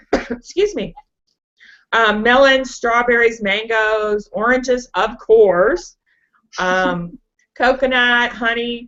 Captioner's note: coughs